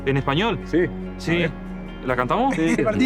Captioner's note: in Spanish